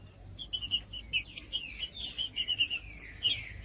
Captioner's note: trinca ferro cantando